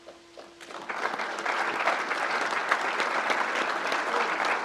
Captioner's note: crowd applauds